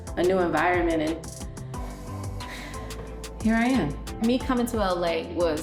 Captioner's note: sighs